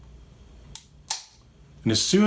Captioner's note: gun clicks